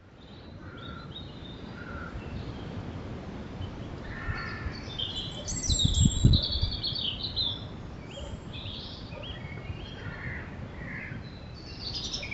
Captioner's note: birdsong